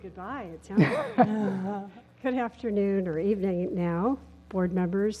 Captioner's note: laugh